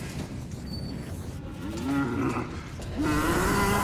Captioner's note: roar